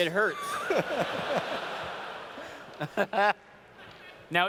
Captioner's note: laughter